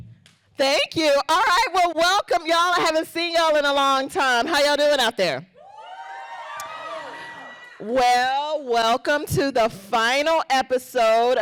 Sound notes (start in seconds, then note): 5.6 crowd cheering